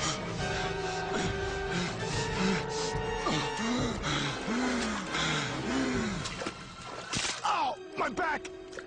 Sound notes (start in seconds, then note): 0.0 Thomas panting; 3.2 grunts; 3.9 panting resumes; 7.2 creak